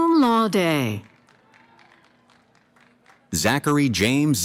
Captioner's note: applause